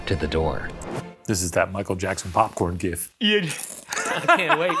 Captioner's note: laughs